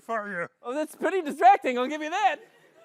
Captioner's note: new york accent